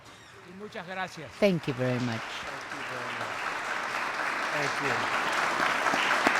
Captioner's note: applause